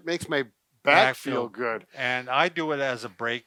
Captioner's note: in Unison